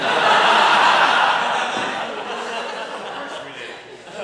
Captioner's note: audience laughing